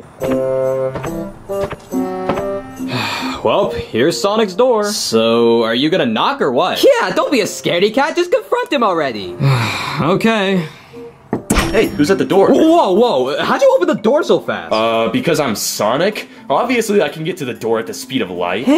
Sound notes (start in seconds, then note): 0.3 gentle music continues; 2.8 Mario sighs; 9.4 Mario sighs; 11.3 knocking